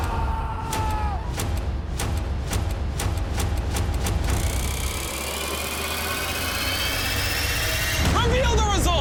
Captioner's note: screaming